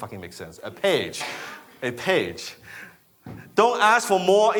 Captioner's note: laughs